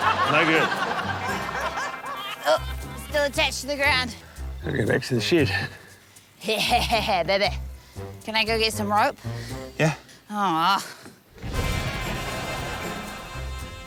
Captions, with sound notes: - No good. - Oh! Still attached to the ground. - I gotta go back to the shed. - Yeah, baby! Can I go get some rope? - Yeah. - (GROANS) (UPBEAT MUSIC)